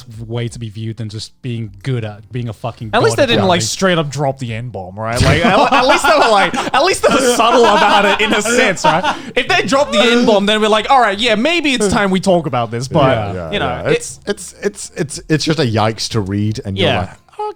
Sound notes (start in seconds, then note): 5.7 laughs